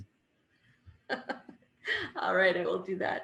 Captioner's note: laughs